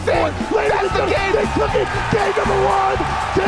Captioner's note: screamed